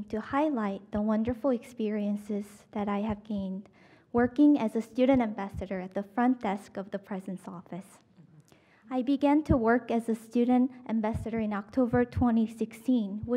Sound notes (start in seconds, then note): none